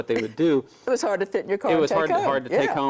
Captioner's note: laughs